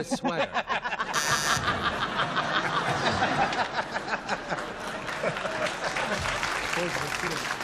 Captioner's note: laughter